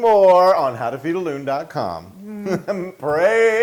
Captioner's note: laugh